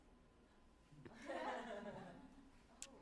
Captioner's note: laughter